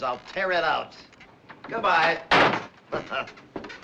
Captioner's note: chuckles